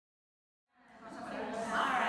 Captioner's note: women chattering